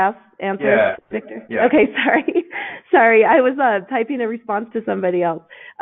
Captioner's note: laughs